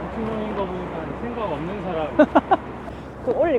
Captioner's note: laughs